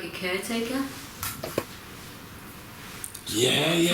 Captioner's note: foots steps